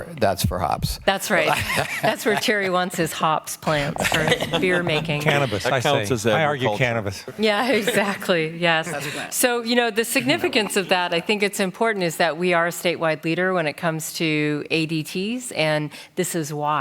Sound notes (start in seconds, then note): 3.7 laughter